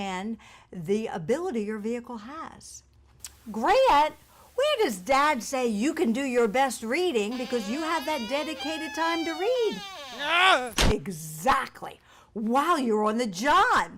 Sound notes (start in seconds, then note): 10.1 scream